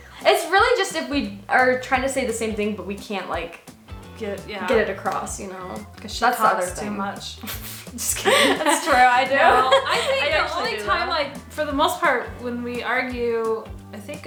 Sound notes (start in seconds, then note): 8.1 laughs